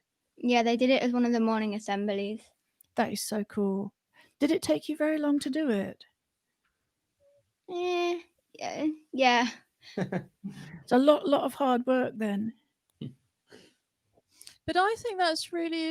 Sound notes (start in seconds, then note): 9.9 laughter